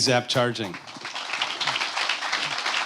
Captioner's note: applause